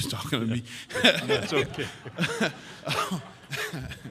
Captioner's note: laughs